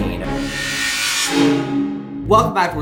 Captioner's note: loud hum